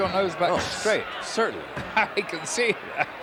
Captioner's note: laugh; laugh